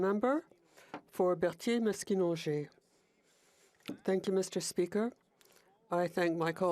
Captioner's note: speaking in FRENCH